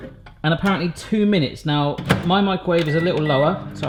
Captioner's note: none